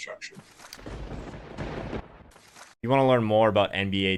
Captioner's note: lightning strike